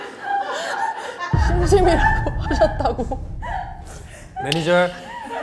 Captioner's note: people laughing at it; thud sound effect